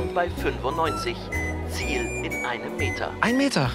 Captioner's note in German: Wabernde Geräusche